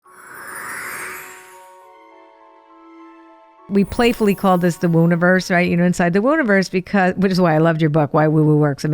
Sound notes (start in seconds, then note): 0.0 gentle ethereal music; 0.7 tinkling; 0.7 whooshing